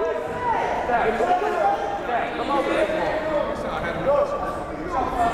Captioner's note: crowd murmuring